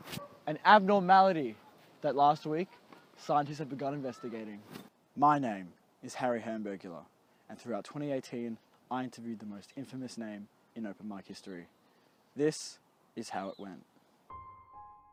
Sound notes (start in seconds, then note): none